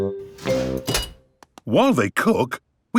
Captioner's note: beeps